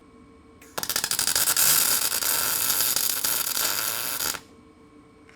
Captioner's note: electricity popping